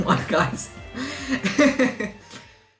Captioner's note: laughter